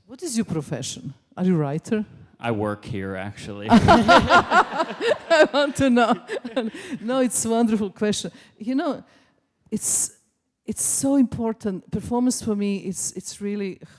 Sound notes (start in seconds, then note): 3.7 crowd laughing